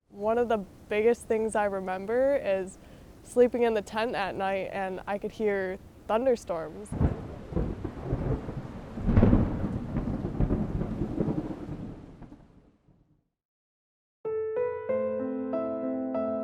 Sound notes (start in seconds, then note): 6.7 thunder cracks; 14.2 instrumental music